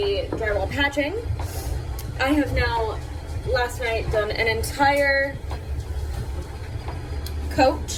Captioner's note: sniffs